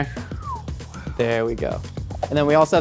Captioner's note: Rhett Whispers